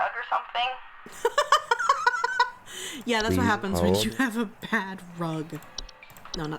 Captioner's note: laughing